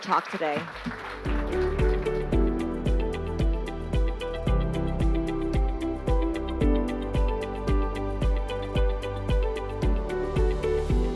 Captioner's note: applause